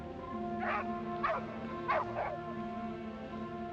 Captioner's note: red barking